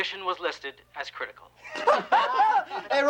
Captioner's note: laughter